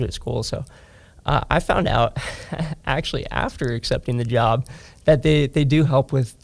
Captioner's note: laughs